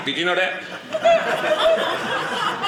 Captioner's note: audience laughing